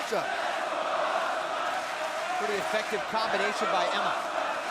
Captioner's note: crowd chatter